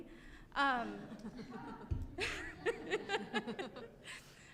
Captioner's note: chuckling